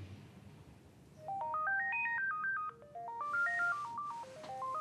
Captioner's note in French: Le téléphone sonne